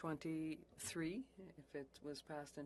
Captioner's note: speaking French